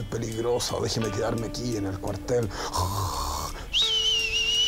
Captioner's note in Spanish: Roncando